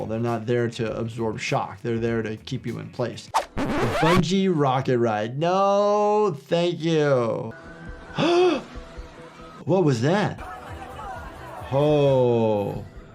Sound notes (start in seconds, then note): 3.4 disk scratches; 7.7 dramatic techno music; 8.2 gasps